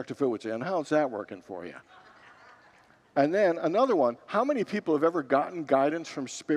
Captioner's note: congregants laugh